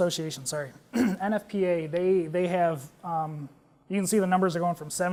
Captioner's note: cough